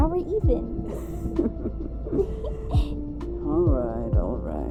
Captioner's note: they chuckle together!